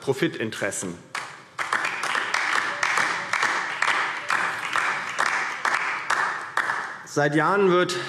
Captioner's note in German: Beifall DIE LINKE